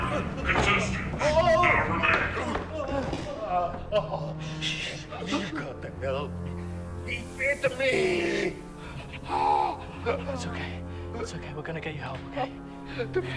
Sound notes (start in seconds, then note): 3.6 victim moaning; 9.2 screaming